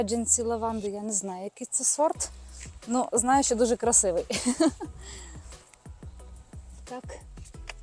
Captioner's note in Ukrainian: сміх